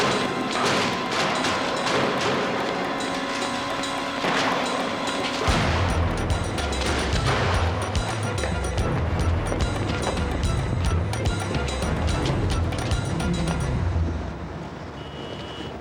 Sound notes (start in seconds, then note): 0.2 bang, bang, bang; 5.4 loud slam; 15.6 horns honking